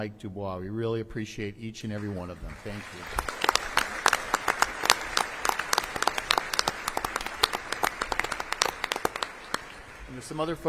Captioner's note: applause